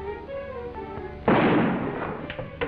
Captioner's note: gun shot